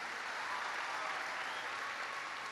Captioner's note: applause